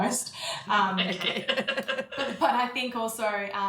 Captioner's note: laughs